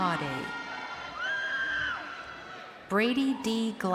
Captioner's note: crowd cheering